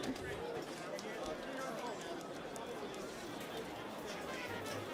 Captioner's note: audience chattering